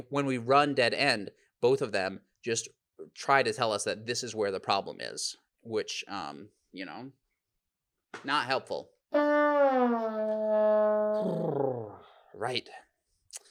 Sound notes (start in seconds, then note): 9.2 horn blows